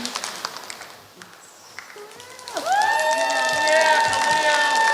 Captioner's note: applause